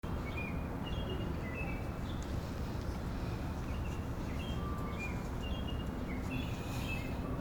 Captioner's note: birds chirping; deep breath